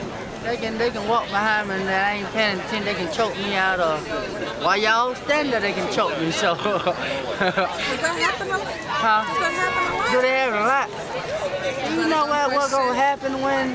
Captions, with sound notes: >> They can they can walk behind me. And then I ain't paying attention, they can choke me out. Or while y'all standing there they can choke me, so.. (laughter) Does that happen a lot? Huh? Does that happen a lot? Do that happen a lot? Do you know what gone happen when